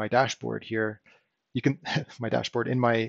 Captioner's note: chuckles